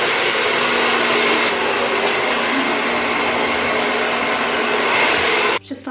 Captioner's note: hair dryer